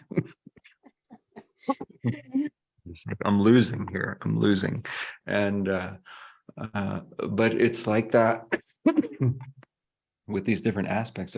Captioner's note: chuckles